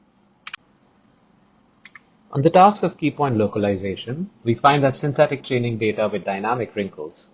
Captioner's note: click